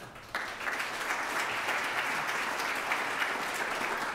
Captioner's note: audience clapping